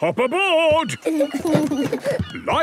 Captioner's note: both giggle